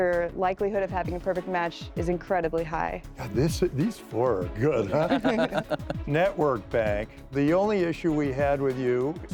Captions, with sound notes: likelihood of having a perfect match is incredibly high. - These four are good. (laughing) - Network bank, the only issue we had with you...